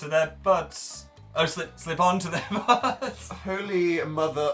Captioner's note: laughs